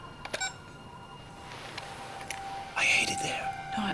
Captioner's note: camera beeps